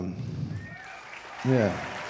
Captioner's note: audience applauding